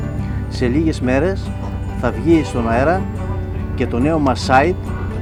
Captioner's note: in both Greek and English